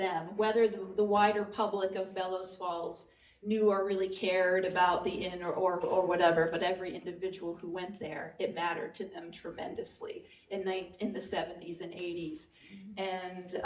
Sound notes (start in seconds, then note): none